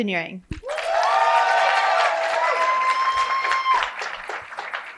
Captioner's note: cheering and applause